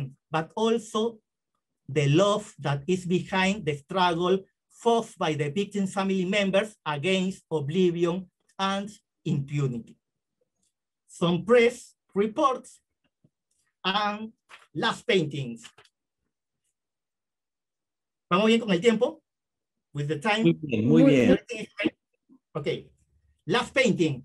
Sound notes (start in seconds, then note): 18.0 speaking spanish